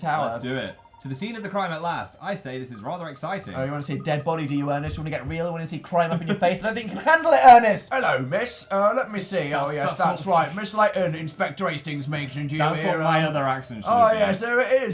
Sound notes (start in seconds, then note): 7.4 adorable giggle; 12.8 laughs